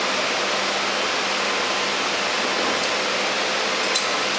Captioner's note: loud machine whirring in the background